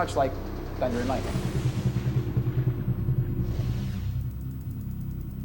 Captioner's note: thunder light sound